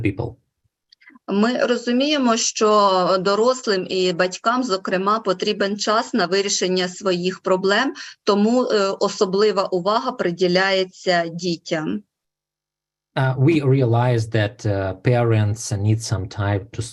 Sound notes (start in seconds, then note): 1.6 foreign Language Spoken